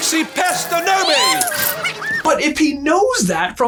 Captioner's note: pixies squeaking and flying around